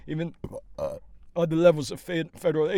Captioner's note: burps